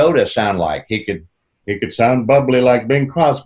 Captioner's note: In Bing Crosby's voice